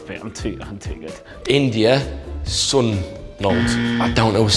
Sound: incorrect buzzer

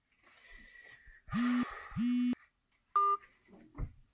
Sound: phone rings, then hangs up

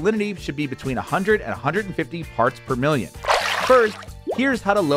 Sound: water burbles

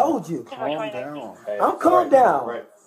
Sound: radio chatter

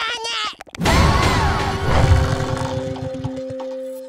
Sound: collective gasp

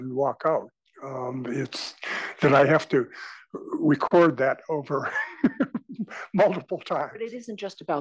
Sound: laugh

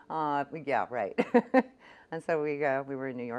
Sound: laughs; laughs

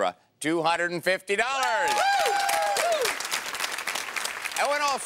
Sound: cheering

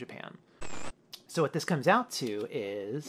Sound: static

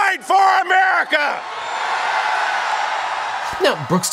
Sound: audience cheers

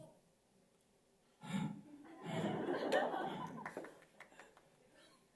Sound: heavy, fast breathing

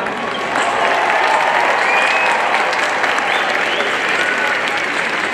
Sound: audience cheering and applauding

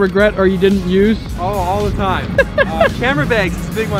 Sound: host laughing

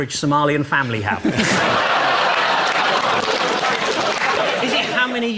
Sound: audience laughs

